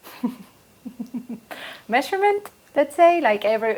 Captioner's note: laugh